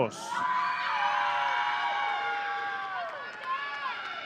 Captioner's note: audience cheering